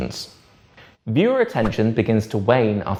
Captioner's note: page whips